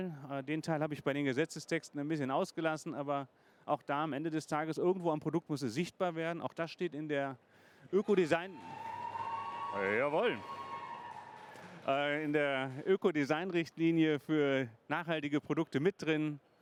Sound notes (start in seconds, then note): 8.0 cheers